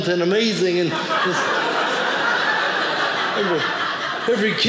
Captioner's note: audience laughing